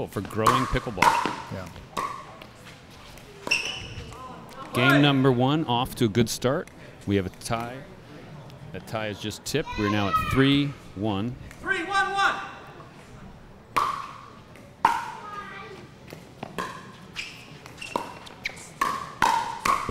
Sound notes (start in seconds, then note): 4.4 players chattering; 13.7 ball bouncing